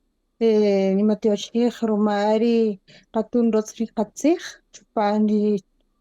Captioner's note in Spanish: Hablando en kaqchikel